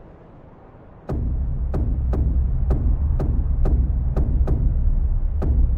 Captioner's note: footsteps thudding